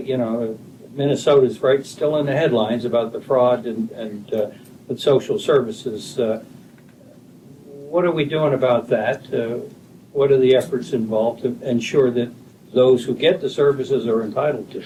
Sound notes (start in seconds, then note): none